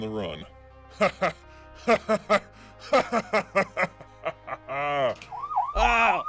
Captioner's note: maniac Laughter